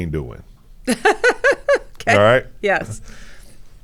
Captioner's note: laughs